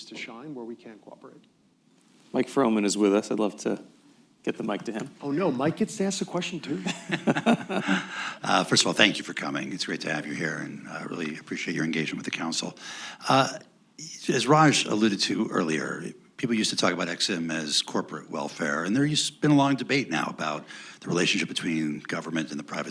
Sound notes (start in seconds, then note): 6.8 laughter